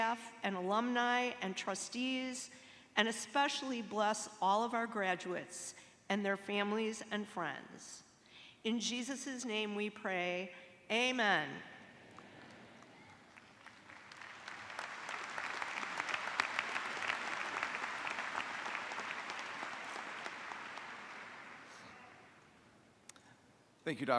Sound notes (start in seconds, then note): 10.1 applause